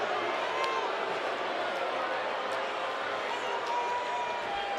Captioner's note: audience jeers